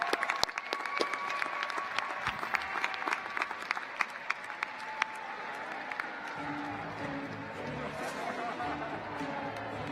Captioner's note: cheers and Applause